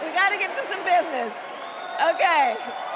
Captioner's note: crowd chanting